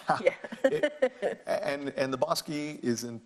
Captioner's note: laughs